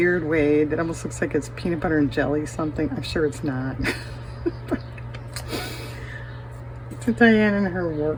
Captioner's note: laughter